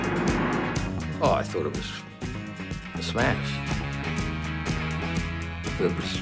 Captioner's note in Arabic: صوت محرك السيارة